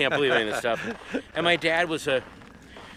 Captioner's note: laughing